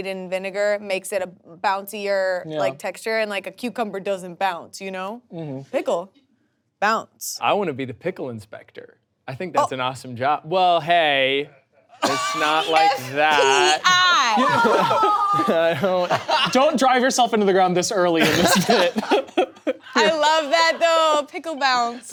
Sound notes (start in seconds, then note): 19.5 people laughing